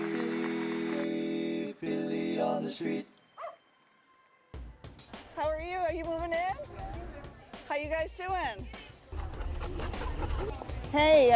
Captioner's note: applause